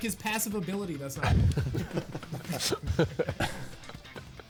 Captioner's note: upbeat music continues; players laughing